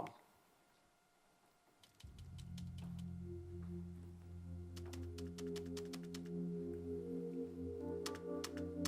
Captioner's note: keyboard clicking